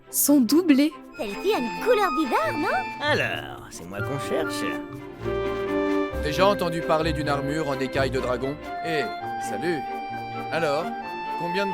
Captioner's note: A whole bunch of French dubbing